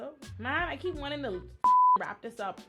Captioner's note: beep